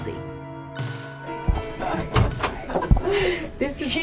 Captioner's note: bright chiming music; Keke laughing